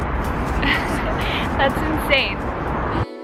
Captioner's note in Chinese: 笑声